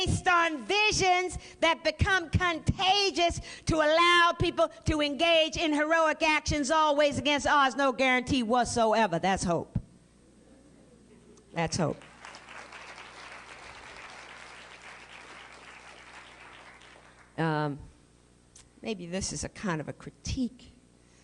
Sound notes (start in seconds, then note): 11.8 applause